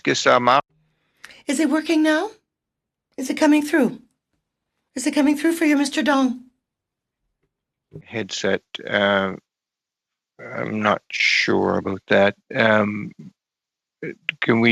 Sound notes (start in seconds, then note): 5.0 speaking French